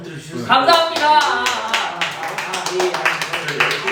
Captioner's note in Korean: 일동박수